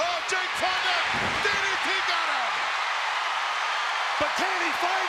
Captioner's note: crowd cheering